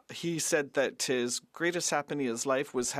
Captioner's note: speaking French